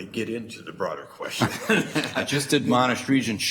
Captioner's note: laughs